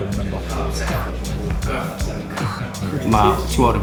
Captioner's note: indistinct chatter